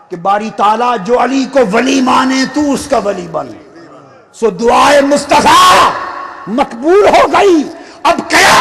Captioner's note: screaming